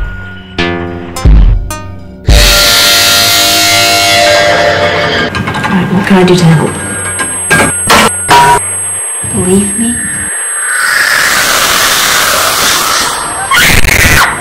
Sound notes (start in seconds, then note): 0.0 spooky music; 2.5 metallic rasping; 4.8 clanking noise; 10.0 ghostly woosh; 13.3 screaming